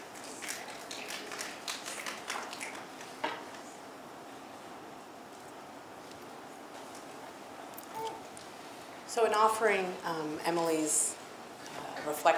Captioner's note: audience snaps